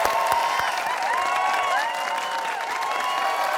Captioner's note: cheers and applause